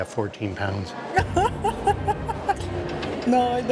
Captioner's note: laughs